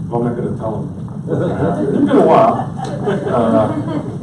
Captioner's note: audience laughs